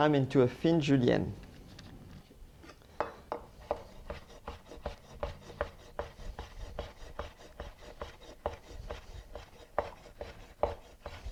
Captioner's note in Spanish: sonido cortando